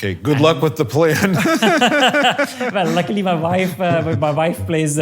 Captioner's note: laugh